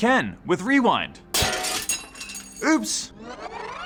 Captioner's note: mug shatters; audio warping